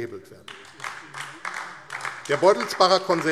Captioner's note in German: Beifall AfD